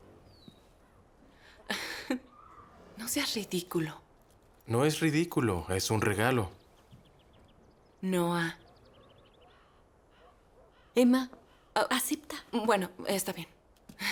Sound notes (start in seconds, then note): 7.9 Emma speaking in foreign language